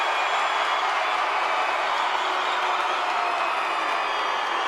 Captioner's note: crowd booing